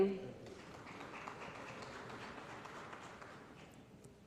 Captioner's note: applause